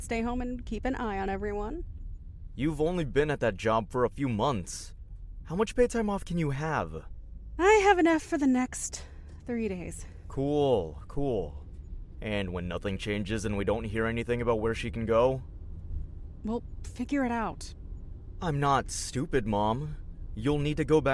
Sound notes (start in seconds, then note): none